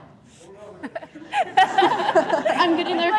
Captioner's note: group laughing